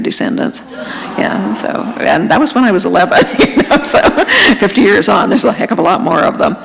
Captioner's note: chuckle